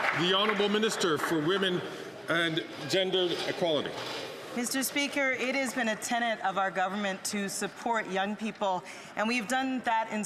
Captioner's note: some Applause